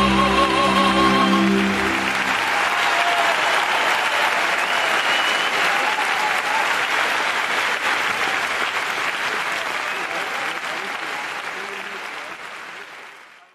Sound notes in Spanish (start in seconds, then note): 1.2 aplausos y ovación